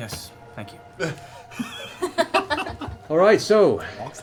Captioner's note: laughter